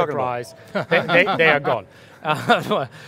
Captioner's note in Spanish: Risas